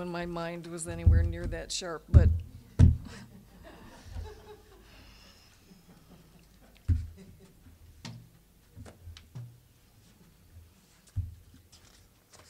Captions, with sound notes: WHEN MY MIND WAS ANYWHERE NEAR THAT SHARP, BUT... (audience laughing)